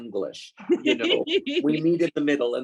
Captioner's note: woman laughs